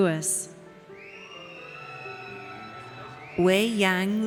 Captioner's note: audience cheers